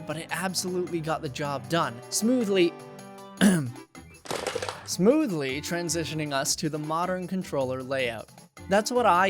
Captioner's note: ahem